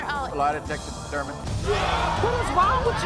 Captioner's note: audience gasps